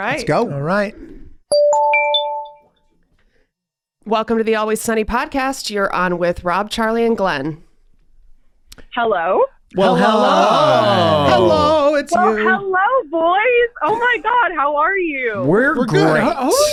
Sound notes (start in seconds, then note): 1.6 internet phone ringing